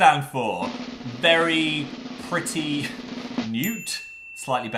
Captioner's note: drumroll; ding